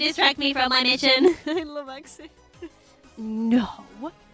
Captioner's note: laughs